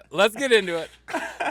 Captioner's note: laughs